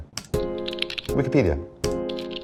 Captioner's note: soft piano music; keyboard clicks